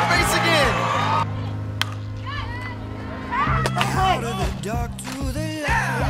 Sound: team yelling in background

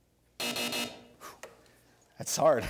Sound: buzzing

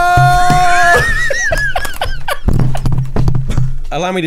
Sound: laughter

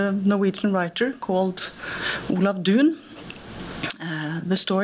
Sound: speaking norwegian

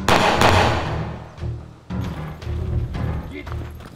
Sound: gun firing

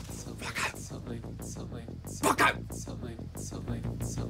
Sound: whispers

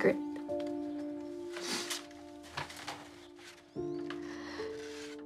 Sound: sniffling; Rebecca sighs

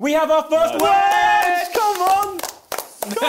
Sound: crowd clapping

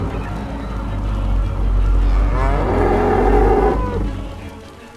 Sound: bull bellows

